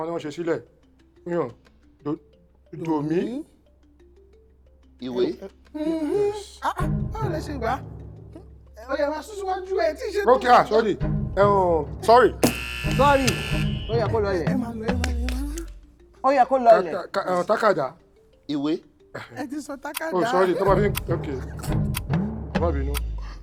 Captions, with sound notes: The tonal pattern is "do mi." Book. Wow! How did you get that? Keep going. You're not done yet. Okay... Ahh, sorry. (Buzzer pressed) Reduce their money! Pen. Book. You already said "pen." Ohh! Sorry.